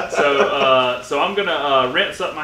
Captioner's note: laughing